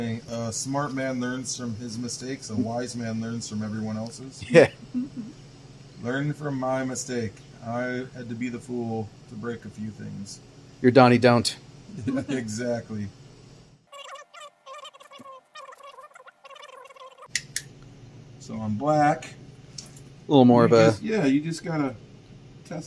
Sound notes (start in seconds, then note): 4.8 chuckles; 11.9 laughs; 13.9 laughs